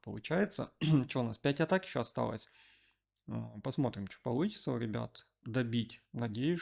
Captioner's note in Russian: откашливается